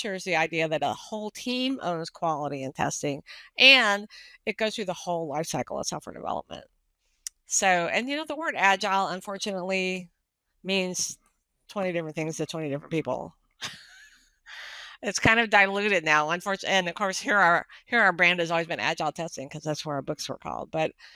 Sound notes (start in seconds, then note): 13.5 laughs